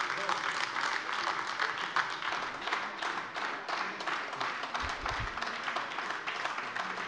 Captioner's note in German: Beifall